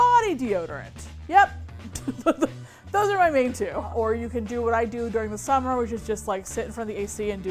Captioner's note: laughs